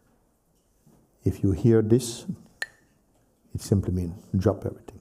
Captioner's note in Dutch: klakt met stokjes